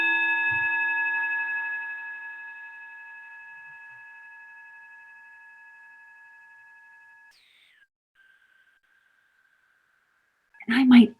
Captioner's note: bowl ringing